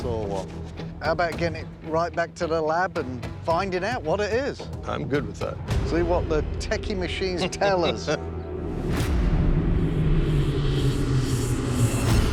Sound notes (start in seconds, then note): 7.4 laughter; 8.3 exciting music playing